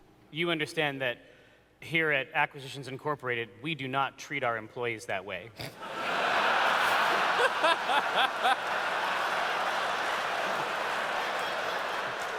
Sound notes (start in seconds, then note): 5.8 laughter; 9.1 audience cheers